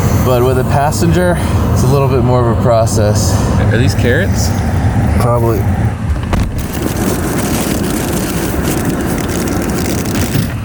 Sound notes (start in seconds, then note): 6.0 car door thuds; 6.2 plastic rustling; 10.4 fridge thumping